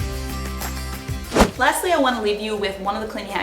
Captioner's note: whooshing